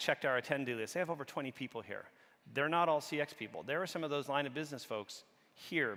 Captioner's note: none